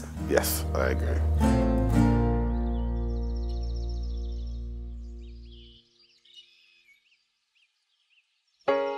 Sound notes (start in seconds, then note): 0.0 birds chirping